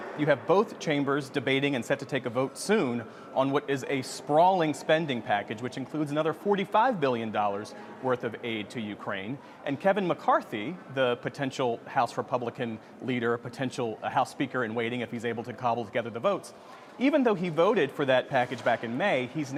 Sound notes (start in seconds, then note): none